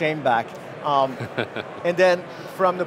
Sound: laughing

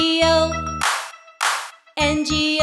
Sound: hands clap

